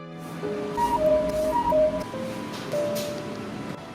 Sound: Net’s watch sound

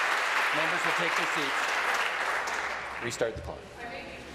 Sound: applause

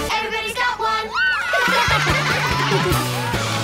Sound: laughing

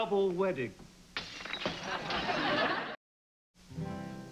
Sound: glass breaking

